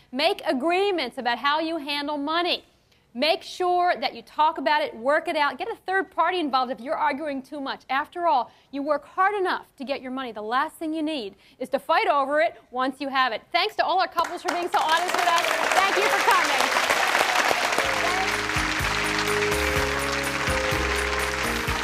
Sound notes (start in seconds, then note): 17.0 audience claps; 17.7 mellow music